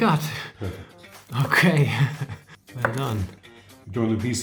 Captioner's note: laughs